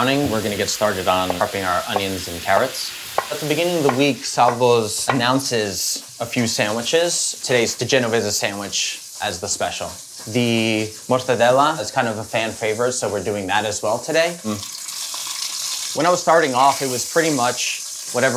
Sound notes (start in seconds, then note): 15.1 meat sizzles